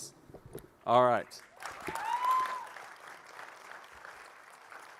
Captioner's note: applause